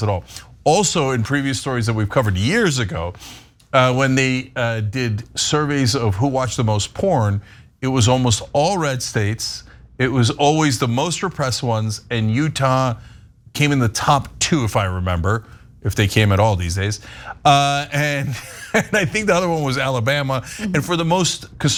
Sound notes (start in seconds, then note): 18.2 laugh